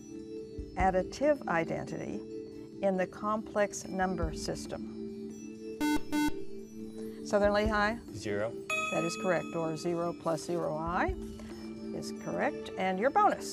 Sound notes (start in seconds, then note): 5.8 buzzer